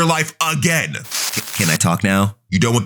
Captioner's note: TV static running